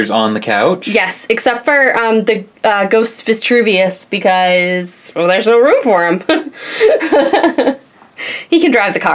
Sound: laughs

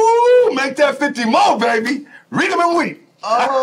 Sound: laughs

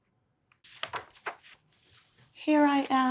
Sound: book page turns

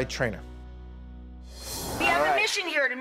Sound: air and chimes whooshing

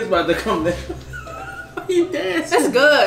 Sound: laughing

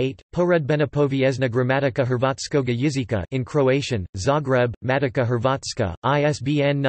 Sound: in Croatian

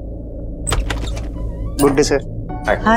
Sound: door opens

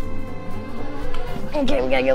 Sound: whirring

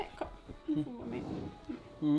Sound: cuddling sound

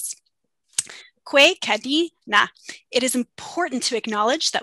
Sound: speaking Indigenous language

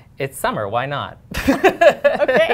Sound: laughter

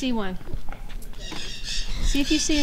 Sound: parrots squawking

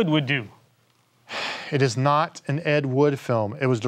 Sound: sighs

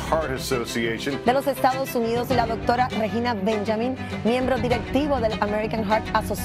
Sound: speaking in a foreign language

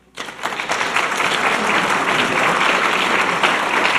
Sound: audience clapping

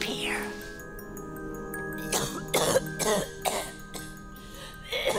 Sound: coughing raspily

